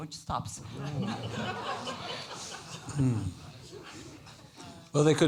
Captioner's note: laughter